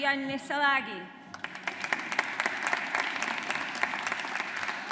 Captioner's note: audience applauds